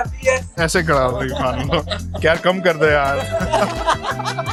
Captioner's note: laughing